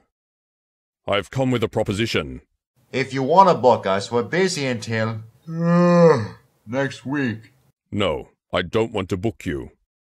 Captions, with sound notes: Um,I have come with a proposition. If you wanna book us,we're busy until (yawn) next week. No,I don't want to book you.